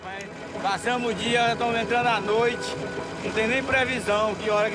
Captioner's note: Portuguese spoken audio